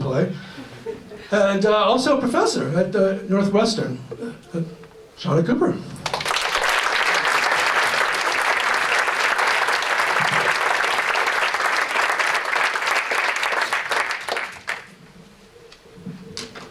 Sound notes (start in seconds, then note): 6.0 applause